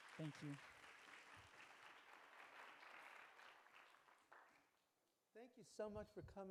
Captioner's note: clapping